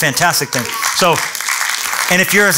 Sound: applause

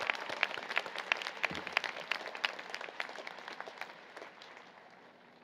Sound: applause, Cheering

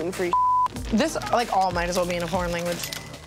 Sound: beep

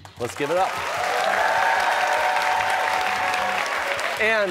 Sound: cheers and applause

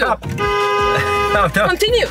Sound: horn honking

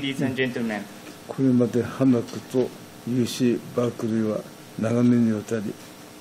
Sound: speaking in foreign language

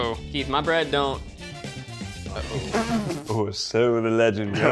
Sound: blows Raspberry

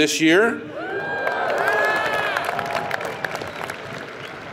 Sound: audience cheers

